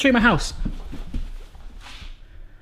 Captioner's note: footsteps